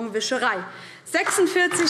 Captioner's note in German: Beifall DIE LINKE